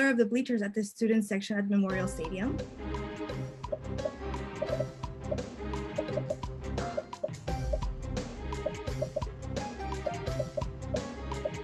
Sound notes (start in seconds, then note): 2.5 popping; 2.5 upbeat music